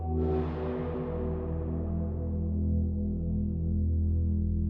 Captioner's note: dramatic tone resonates